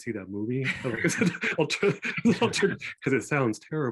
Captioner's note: everyone laughing